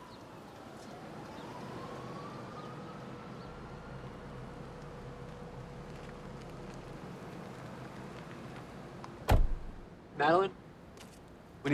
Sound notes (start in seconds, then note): 0.1 siren wailing; 9.2 car door slams